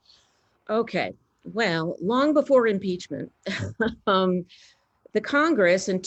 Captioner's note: laughs